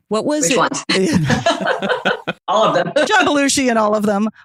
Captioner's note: laughing; guffaw